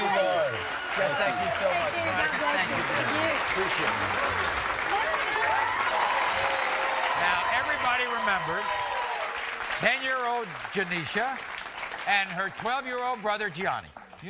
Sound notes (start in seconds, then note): 4.0 audience cheering and applauding